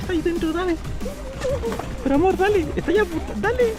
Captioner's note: sounds of fear